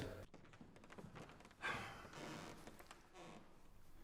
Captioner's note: sighs